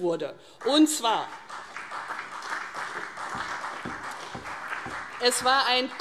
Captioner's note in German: Beifall CDU und vereinzelter Beifall BÜNDNIS 90/DIE GRÜNEN